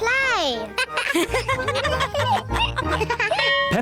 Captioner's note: all laugh